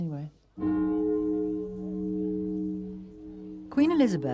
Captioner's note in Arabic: صوت أجراس